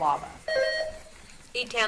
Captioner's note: buzzer beeps